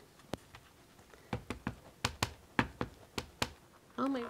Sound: ink pad tapping

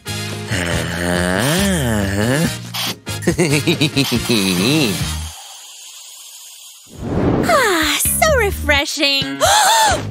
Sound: giggling

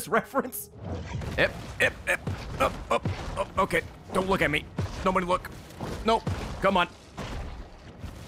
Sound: effort noises

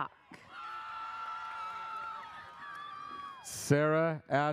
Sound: audience cheers

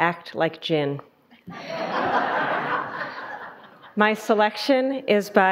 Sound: audience laughing

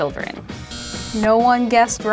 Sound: buzz

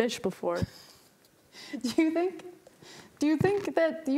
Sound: chuckles

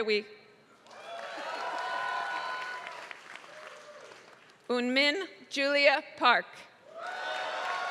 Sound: applause; applause

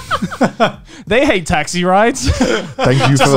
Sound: laughing; laughing

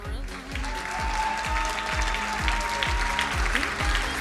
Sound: crowd cheering and applauding

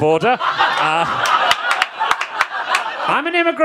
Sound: audience laughing

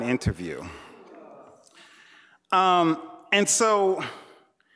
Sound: audience members groaning

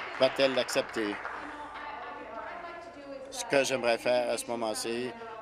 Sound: applause

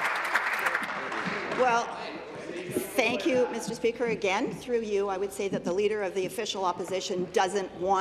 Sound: applause

